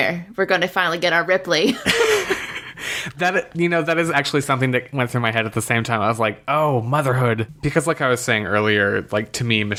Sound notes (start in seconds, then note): 1.8 laughs